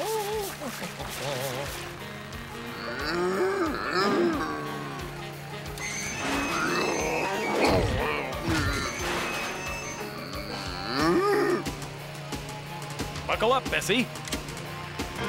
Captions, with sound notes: (COW MOOING) (COW MOOING) Buckle up, Bessie.